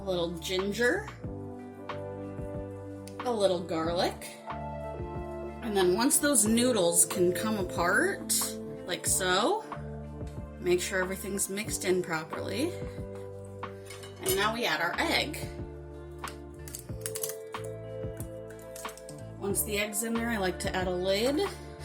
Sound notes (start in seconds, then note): 16.6 crack